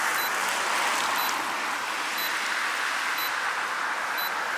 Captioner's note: timer beeping